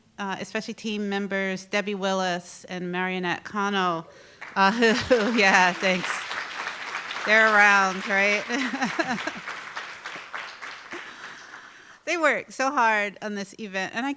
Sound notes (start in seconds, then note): 6.4 audience applauding; 9.5 chuckles